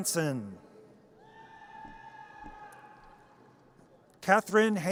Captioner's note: audience cheers